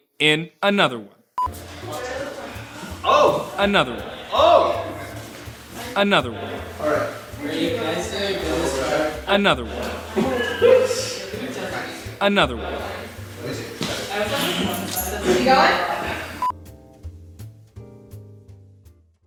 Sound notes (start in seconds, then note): 1.4 beep; 7.1 people talking in background; 16.4 beep